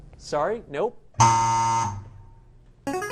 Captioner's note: wrong answer buzzer; answer bell